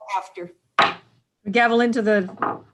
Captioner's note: gavel bangs